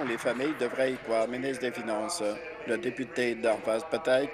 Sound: applause

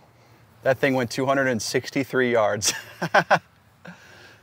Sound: laughs

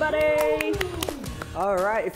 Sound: cheers

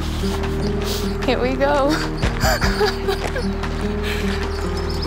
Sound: laughter

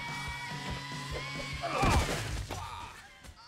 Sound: grunting

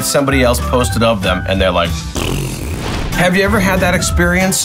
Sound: spits

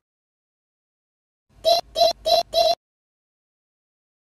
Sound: alarm clock

